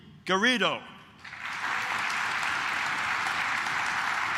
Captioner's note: claps